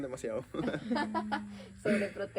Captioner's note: laughter